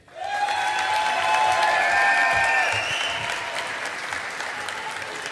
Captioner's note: audience applauding